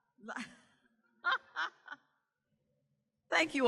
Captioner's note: Winsome laughs